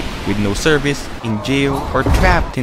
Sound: metal door clangs

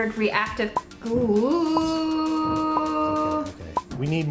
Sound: she groans uncertainly

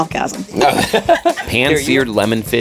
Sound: both laugh

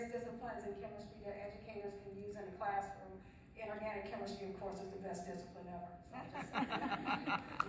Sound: laughter from audience

